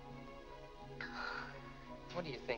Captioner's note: Mary sighs